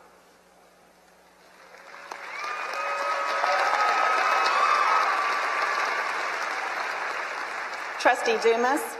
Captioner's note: applause